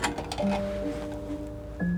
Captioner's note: phone Clanking